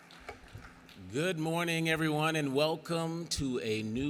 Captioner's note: applause